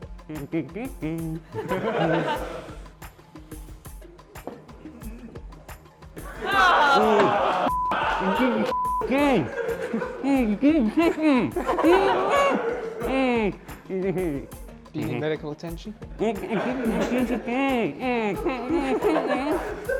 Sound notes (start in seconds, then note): 0.1 humming a tune; 1.0 laughter; 6.3 muffled sounds of disgruntlement; 16.2 laughter